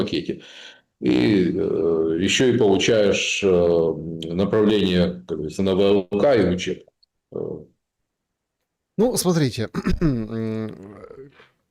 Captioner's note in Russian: откашливается